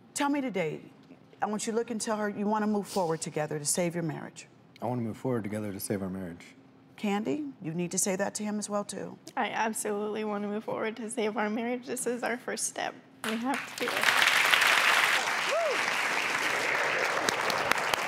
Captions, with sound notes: tell me today, I want you look and tell her you want to move forward together to save your marriage. - I want to move forward together to save our marriage. - Candie, you need to say that to him as well too. - I absolutely want to move forward to save our marriage. This is our first step. We have to do it. (audience applauds)